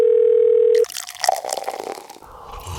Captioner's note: telephone Ringing